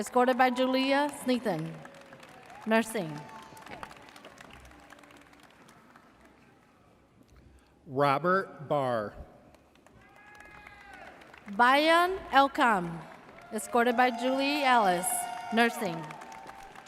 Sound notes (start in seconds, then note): 3.9 audience applauds; 10.0 audience cheers